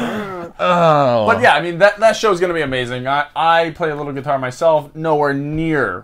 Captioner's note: laughing